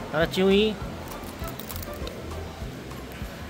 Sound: crunchy

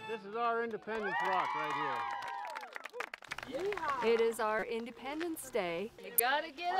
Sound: cheering

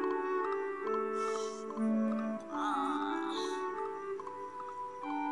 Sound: yawns

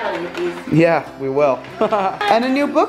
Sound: laughs

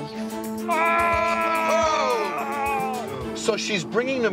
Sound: groaning

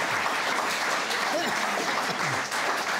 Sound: coughing

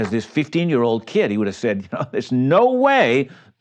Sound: chuckles

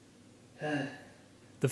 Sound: sigh

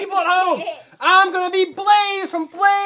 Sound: child giggles

